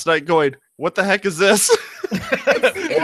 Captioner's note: laughing; laughs